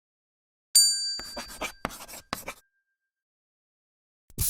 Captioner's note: bell dings